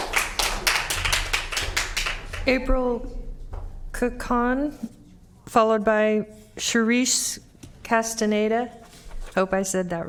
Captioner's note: applause